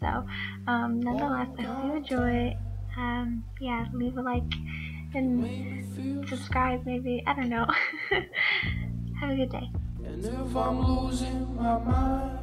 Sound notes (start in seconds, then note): 7.7 awkward laugh